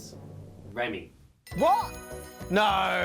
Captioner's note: bell ringing